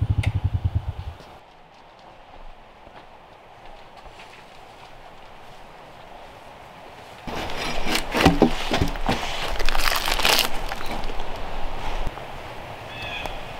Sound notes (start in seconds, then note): 10.2 bark crackling